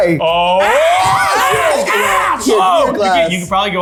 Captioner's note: people yelling